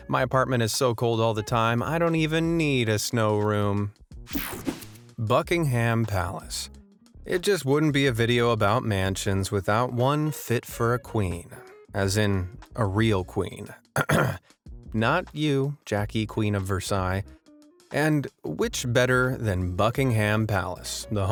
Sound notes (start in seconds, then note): 4.3 air whooshing; 13.9 clears throat